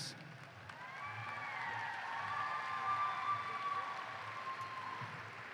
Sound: applause

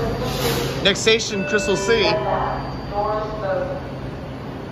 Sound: chime

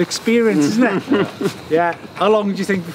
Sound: laughing

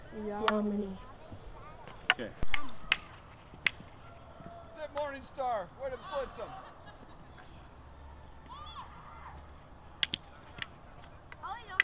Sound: sticks smacking and cheering

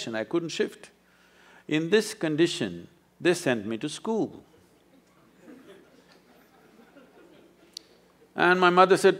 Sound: few laugh

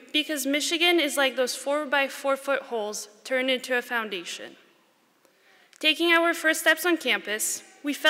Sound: none

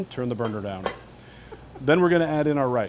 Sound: laughter

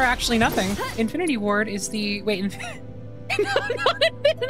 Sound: laughing; laughter

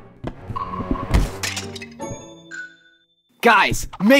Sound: vase breaking

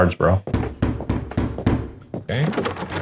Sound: door thudding; doorknob clattering

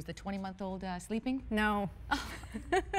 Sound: laughter

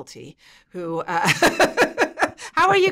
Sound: laughs

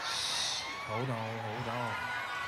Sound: applause

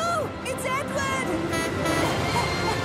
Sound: philip honks horn

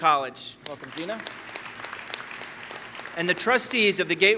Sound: applause

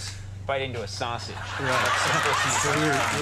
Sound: crowd laughing

